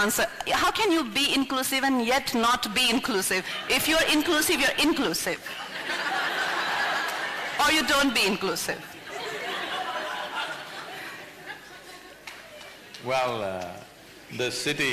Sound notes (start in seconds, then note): 5.4 laughter; 8.9 laughter